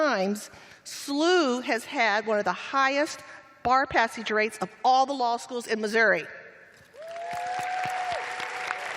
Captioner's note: cheers and applause